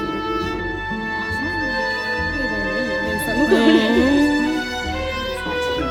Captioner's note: laughs